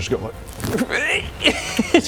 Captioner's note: eeek